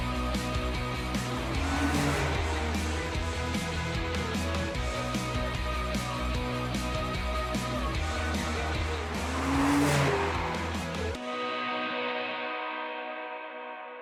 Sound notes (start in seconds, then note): 1.6 car engine revving; 2.8 upbeat music; 9.4 car engine revving; 11.0 upbeat music